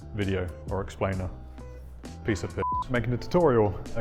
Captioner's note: beep